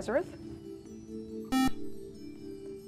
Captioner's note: buzzer